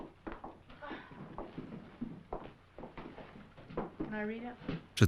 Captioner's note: sighing